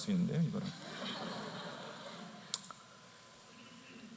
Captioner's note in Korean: 웃음